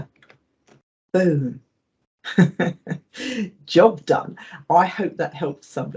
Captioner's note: laughs